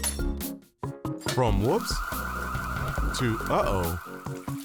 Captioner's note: fire alarm blaring